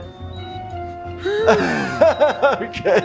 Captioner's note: heart monitor beeps